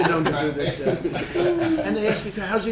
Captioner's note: laughter